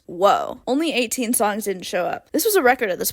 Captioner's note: none